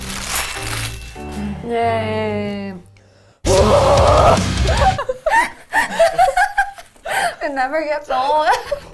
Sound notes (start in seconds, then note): 0.5 bell ringing; 3.4 grunting; 5.0 laughing